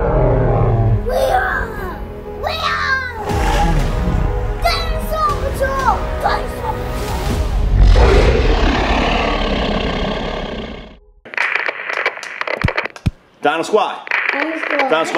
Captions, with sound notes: (roaring) - Dinosaur Patrol! - Dinosaur Patrol! (dinosaur roaring) - Dino Squad. - Dino Squad.